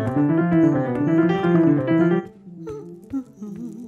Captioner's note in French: fredonnement